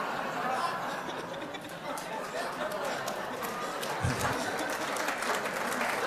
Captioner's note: laughter; applause